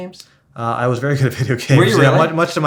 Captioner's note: laughs